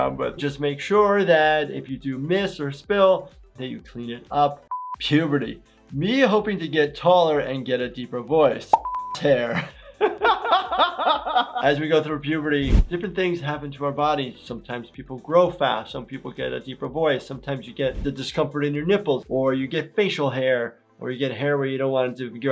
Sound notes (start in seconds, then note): 8.7 beep; 9.4 laughing